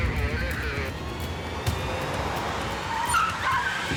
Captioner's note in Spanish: voz en el radio; chirrido de neumáticos